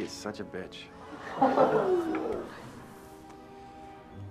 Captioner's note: laughter; gasps